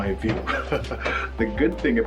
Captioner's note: laughs